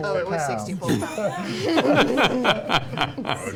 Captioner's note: laughs; groans